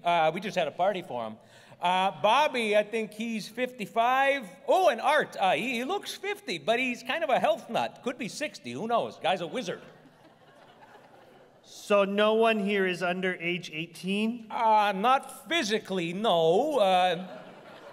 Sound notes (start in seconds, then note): 9.4 laughter